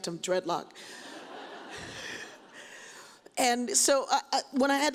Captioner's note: audience laughs